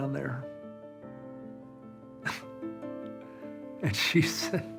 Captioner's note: laughs